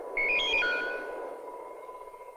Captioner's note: electronic beep